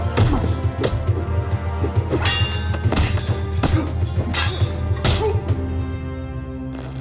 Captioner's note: grunts